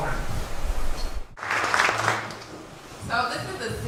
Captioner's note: applause